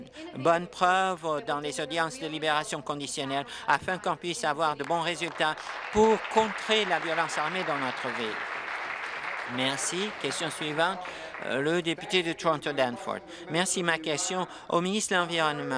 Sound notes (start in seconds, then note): 8.9 applause